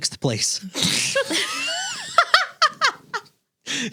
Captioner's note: laughing